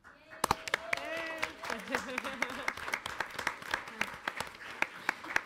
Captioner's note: audience applauds